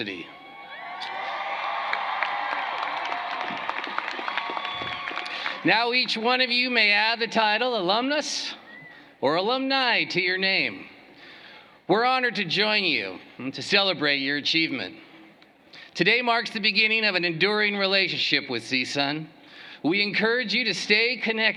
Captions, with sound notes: IT'S MY PLEASURE TO BE THE FIRST TO FORMALLY WELCOME YOU TO, AS ALUMNI OF OUR GREAT UNIVERSITY. [CHEERING AND APPLAUSE] NOW, EACH ONE OF YOU MAY ADD THE TITLE ALUMNUS OR ALUMNA TO YOUR NAME. WE'RE HONORED TO JOIN YOU AND TO